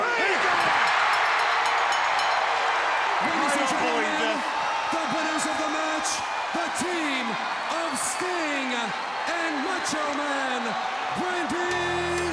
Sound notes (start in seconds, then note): 0.6 bell rings